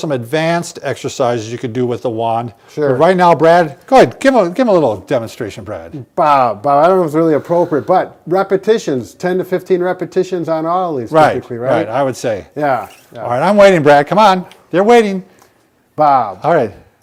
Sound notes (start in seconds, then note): 12.6 PVC squeaking